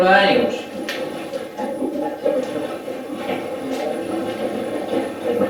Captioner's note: static playback transmitting